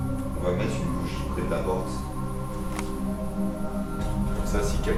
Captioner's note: speaks French